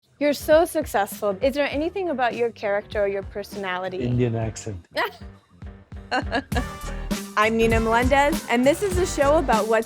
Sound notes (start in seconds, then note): 6.0 laughing